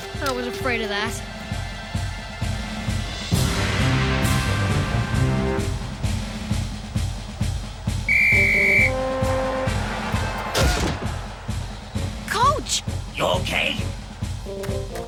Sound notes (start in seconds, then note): 8.0 blowing whistle